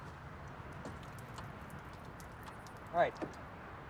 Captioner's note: dripping